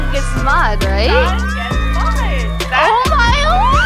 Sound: cheering

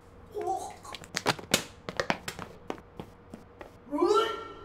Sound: Nicole gags

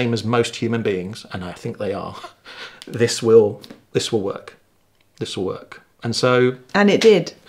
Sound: laughing

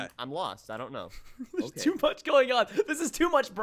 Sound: laughs

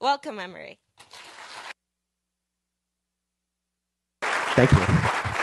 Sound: audience applauding

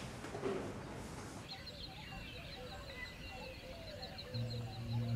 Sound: birds chirping; ethereal music

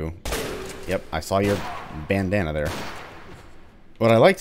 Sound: Vulture Shotgun blast; bang bang

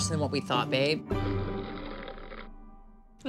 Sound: slurping

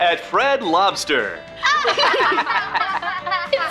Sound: laughing

